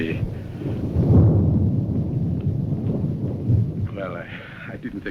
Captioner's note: thunder roaring